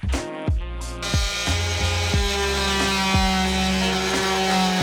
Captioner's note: machine whirling